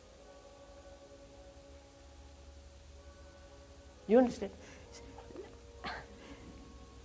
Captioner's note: church bell